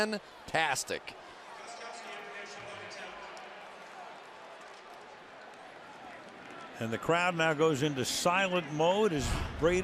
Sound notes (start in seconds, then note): 2.1 pa announcement